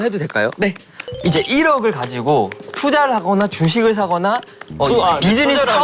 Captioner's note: consciousness-Applause